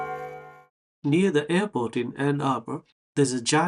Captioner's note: bells clanking